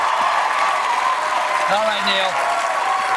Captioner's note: cheers and applause